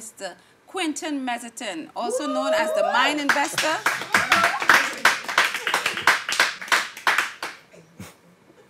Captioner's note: applause; laughing; silence